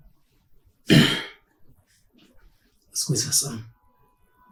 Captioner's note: clearing throat